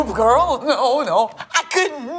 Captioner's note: laughing